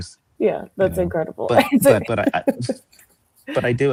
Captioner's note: laughs